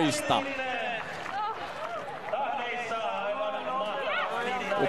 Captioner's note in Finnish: Aplodeja